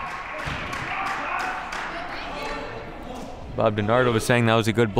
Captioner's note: crowd clapping